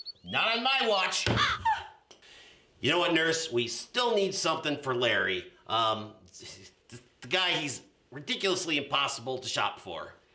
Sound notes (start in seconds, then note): 1.4 NURSE gasps; 1.4 bird squwaks